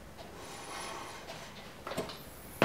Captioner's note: metal scraping